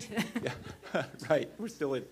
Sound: laughter

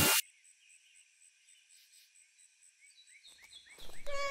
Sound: birds chirping

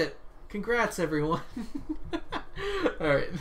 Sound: laughs

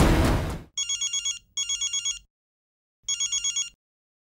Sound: cell phone ringing

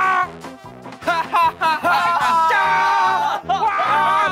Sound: A happy laughter

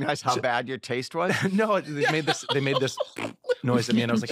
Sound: mimics queef

